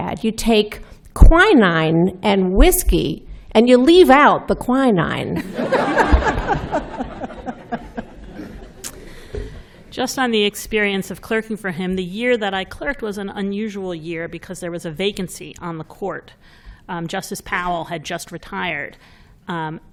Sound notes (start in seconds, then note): 5.4 laughter